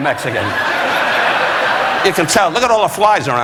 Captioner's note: audience laughing